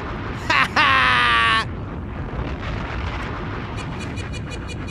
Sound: bomb exploding

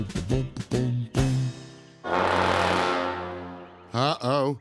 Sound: upbeat scat singing; loud honking

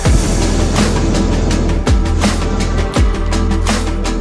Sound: burner growling

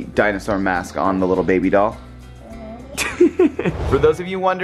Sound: giggles

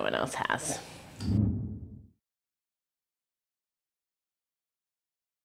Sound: graphic whooshing

